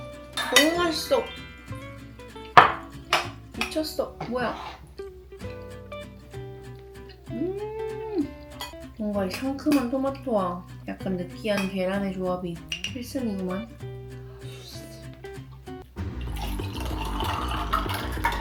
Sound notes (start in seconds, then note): 14.1 slurp